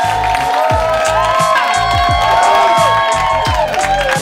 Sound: applause

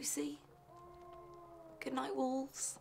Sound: wolf howls

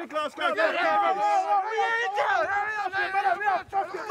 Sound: arguing and shouting

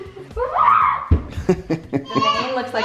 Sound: screams

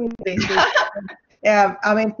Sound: laughs

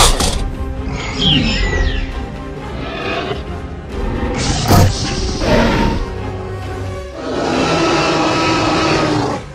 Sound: T-rex and Velociraptor tangle

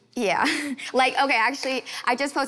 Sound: laughing gently

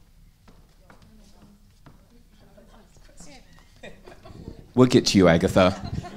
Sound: speaks faintly

